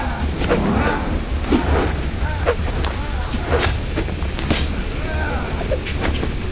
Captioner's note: Naga groaning; whooshing